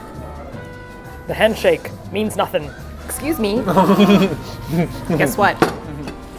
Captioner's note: laughs